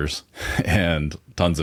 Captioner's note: laughing